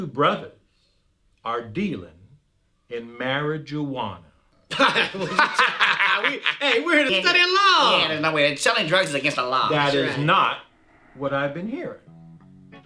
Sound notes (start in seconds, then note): 4.7 laughing